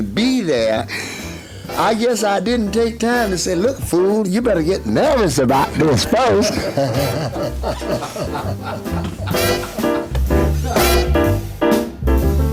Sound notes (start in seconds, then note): 6.8 laughing; 9.7 piano playing